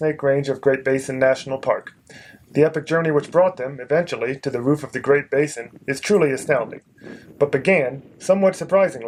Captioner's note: wind